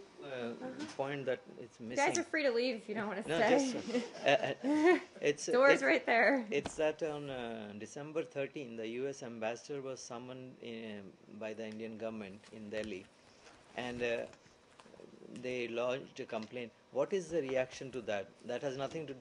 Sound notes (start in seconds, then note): 3.6 laughter